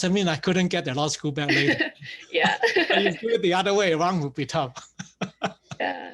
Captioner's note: laughs